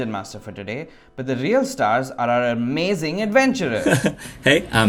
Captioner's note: laughs